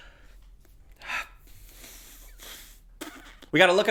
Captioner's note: sighs heavily